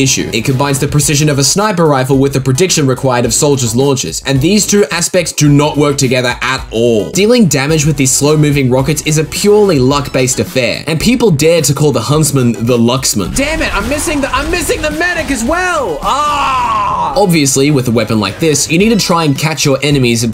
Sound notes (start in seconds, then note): 14.4 shouting